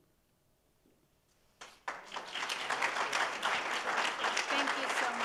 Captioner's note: audience applauding